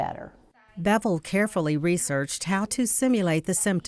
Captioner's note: voiceover